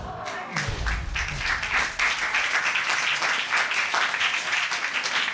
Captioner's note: applause